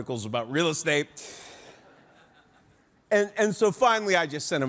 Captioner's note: audience laughing